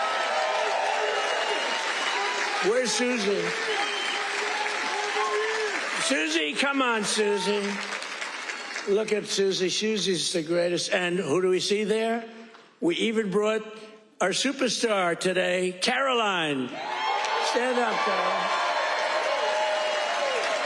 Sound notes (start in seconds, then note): 6.1 applause